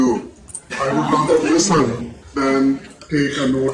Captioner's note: laughter